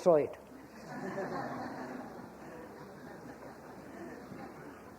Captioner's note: laughter